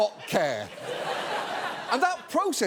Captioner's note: audience laughs